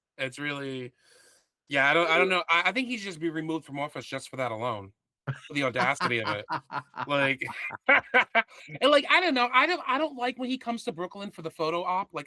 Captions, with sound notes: It's really, yeah, I don't know. I think he's just be removed from office just for that alone, the audacity of it. (Laughing) And like, I don't know. I don't like when he comes to Brooklyn for the photo op.